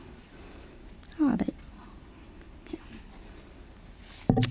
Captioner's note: muttering to herself